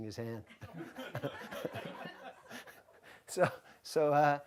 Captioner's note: audience laughs